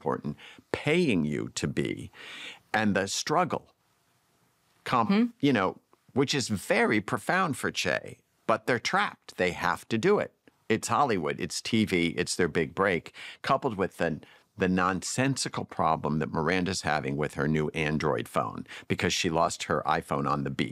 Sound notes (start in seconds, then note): none